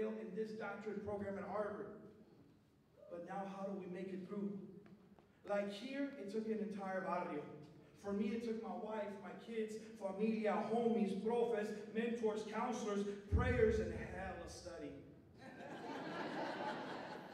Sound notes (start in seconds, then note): 6.8 non-english speech; 9.5 non-english speech; 15.4 laughter